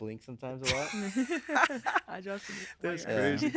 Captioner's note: laughing